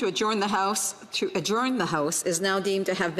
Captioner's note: speaking French